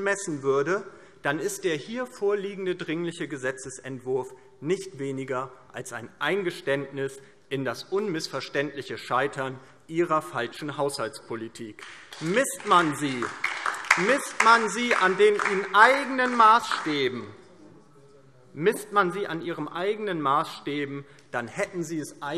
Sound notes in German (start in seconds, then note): 11.8 Beifall DIE LINKE